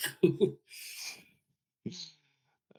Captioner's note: laughs